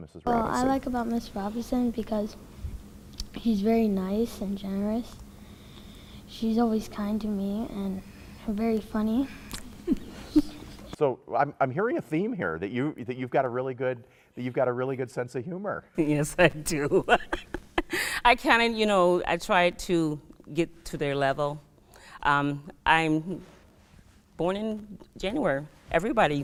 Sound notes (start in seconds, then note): 16.8 laughing